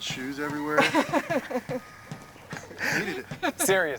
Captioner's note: laughing